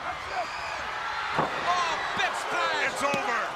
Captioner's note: crowd chatters